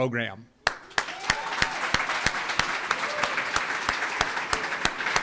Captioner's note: audience applauds